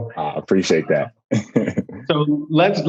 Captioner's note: laughs